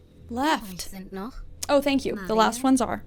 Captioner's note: show host speaking in German